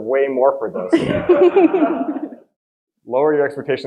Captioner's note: audience laughing